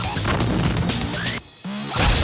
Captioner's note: digital noise